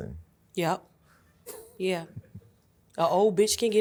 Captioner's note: laughs